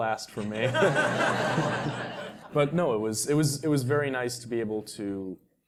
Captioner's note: laugh